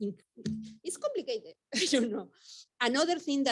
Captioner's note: chuckles